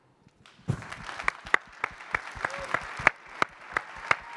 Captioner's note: crowd applauding